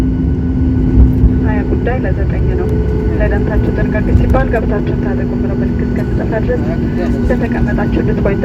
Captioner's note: passenger announcement in Amharic